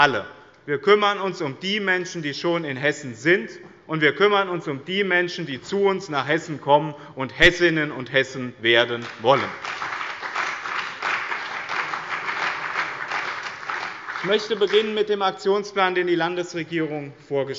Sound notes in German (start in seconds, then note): 8.9 Beifall bei dem BÜNDNIS 90/DIE GRÜNEN und der CDU